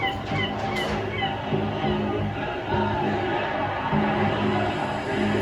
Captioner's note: crowd chanting